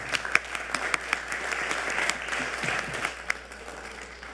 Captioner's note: audience applauding